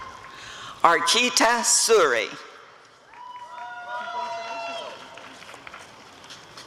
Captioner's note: applause and cheering